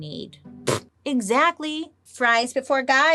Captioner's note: scoffs